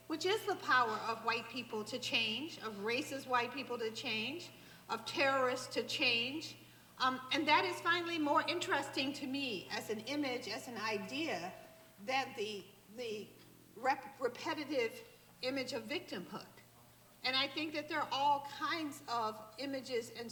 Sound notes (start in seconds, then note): none